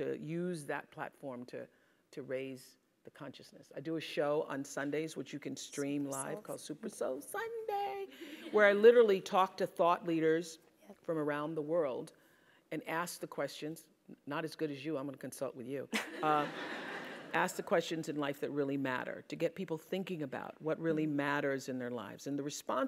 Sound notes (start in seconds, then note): 16.6 laugh